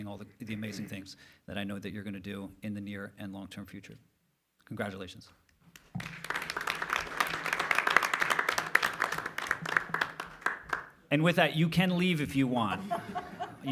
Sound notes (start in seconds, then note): 5.7 applause